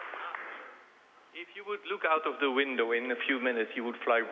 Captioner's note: applause